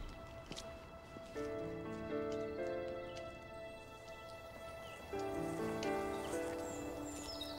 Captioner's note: soft orchestral music; birds chirping